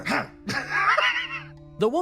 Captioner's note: laugh